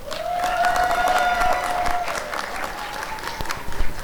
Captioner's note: applause and cheering